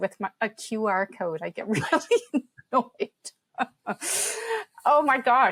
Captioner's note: laughs